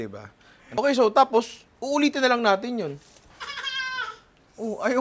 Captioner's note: cries